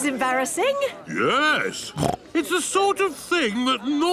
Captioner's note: snorts